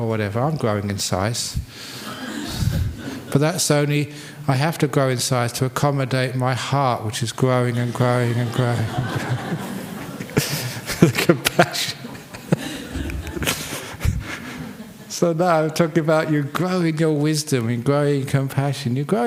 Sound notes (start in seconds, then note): 3.4 laughter; 12.9 laughter